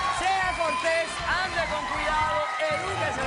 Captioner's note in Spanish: aplausos